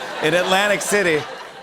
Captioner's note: laughter